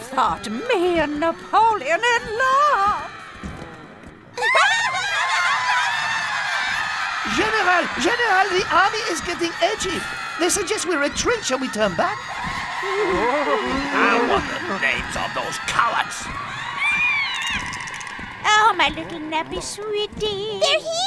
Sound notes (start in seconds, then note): 4.4 girls laughing; 6.1 laughter echoing; 12.7 laughter echoing